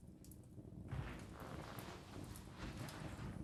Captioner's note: quiet crackling